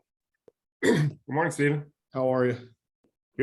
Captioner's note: coughs